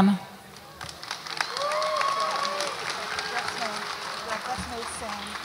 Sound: audience applauds and cheers

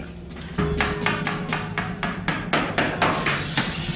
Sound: hammer thumping

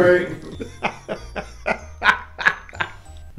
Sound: laughing

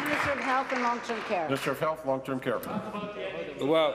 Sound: applause

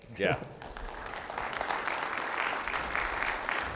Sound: participants applauding

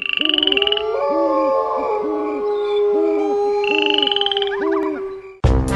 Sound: wildlife sounds

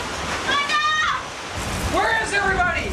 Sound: woman in background shouting

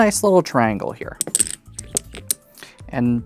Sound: dominoes clattering

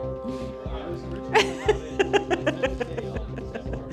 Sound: laughing

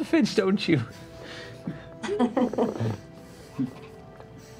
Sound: giggles

